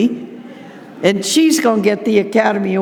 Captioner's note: audience laughing